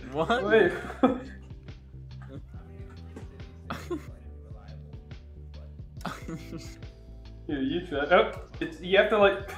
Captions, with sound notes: What? Wait, what? *slight laughter* *slight laughter* *slight laughter* Here, you try- Oh It's- You have to-